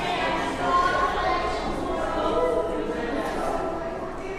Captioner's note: children talking